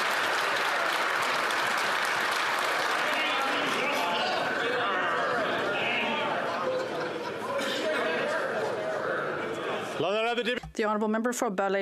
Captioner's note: some Applause